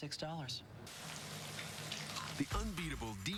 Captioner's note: crunching